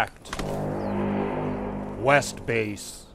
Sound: deeper Horn

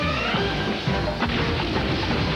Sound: boom!

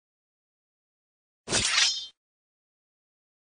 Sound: sword noise

